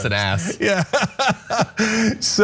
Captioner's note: laugh